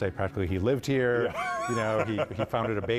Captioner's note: laughing